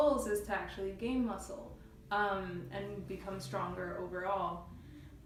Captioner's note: none